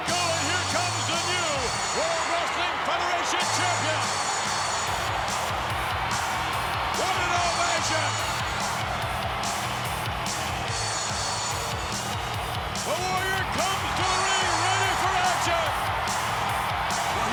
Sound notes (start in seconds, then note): 4.3 crowd cheering; 4.3 energetic music